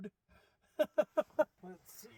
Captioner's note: laughs